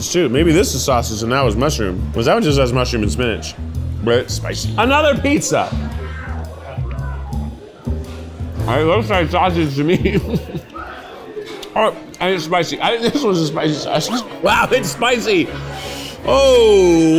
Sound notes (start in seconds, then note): 5.6 jazz music; 9.6 chuckles; 15.2 orchestral music plays